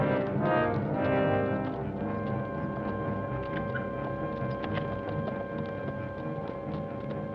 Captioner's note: suspenseful orchestral music; distant hooves clop